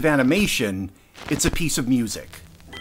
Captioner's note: record fizzle